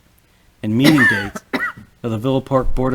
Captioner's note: coughs